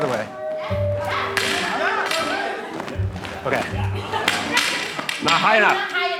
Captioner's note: flags clanging